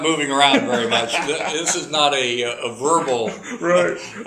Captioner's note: laugh